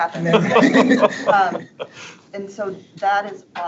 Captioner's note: board members laughing